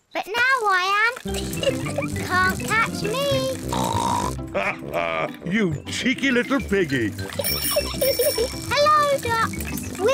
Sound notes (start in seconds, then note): 1.7 snorts; 7.3 giggles